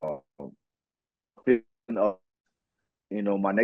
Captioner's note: audio out